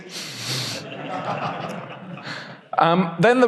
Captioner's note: audience laughs